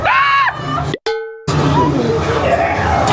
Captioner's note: spooky music; everybody screaming; object boinks; scareactor grunting